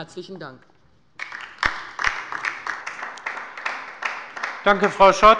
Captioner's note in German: Beifall bei der LINKEN